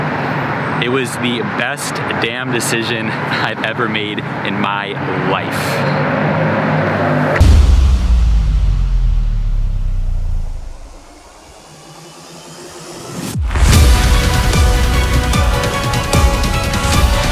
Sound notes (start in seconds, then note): 6.7 car zooming; 13.5 intense orchestral music